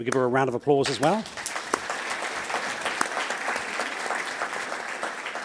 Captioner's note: audience applauds